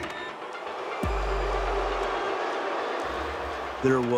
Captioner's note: crowd booing